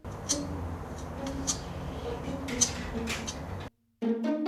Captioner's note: scratching sound